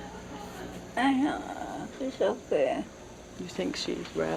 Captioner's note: heavy Accent; murmuring